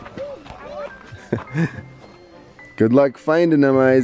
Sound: chuckles

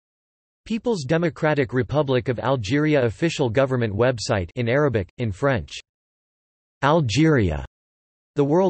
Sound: in Arabic

